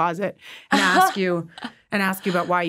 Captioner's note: chuckles